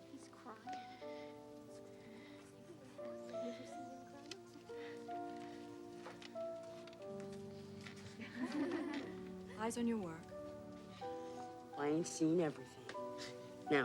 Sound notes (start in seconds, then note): 1.8 emotional music; 8.2 kids giggling